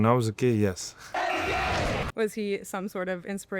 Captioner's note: crowd